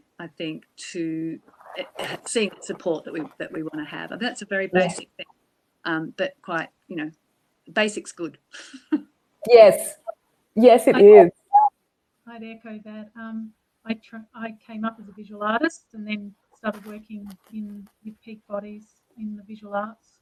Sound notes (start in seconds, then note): 8.9 laughs